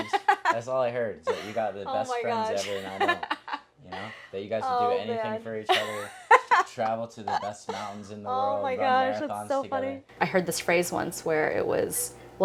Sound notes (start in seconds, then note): 2.0 laughing; 5.7 laughing